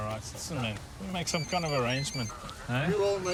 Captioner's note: cellphone rings